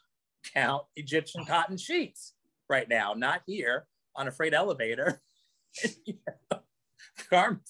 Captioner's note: laughs